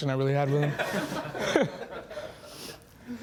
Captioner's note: laughing